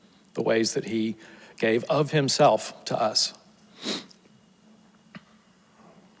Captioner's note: sniffles